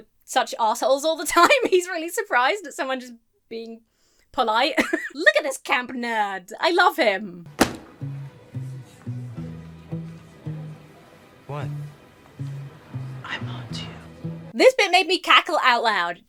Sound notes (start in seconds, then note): 4.8 laughs; 7.4 comical music; 7.5 book slams on desk